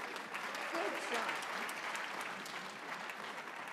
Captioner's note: applause